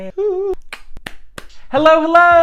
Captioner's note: awkward clapping